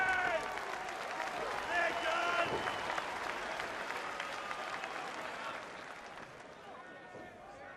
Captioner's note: applause